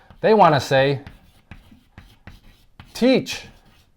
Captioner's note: chalk writing